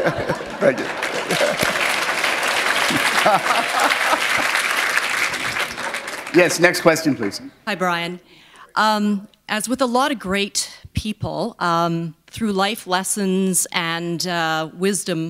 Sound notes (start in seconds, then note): 2.8 chuckle; 3.5 applause; 4.3 laughter